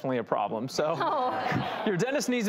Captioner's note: audience laughs; laughs